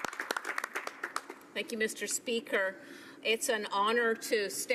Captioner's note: applause